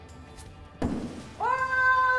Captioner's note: axe hitting wood